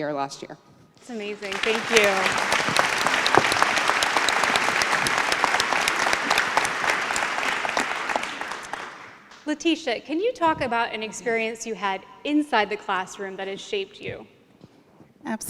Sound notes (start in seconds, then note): 1.0 applause